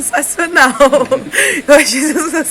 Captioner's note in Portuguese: risos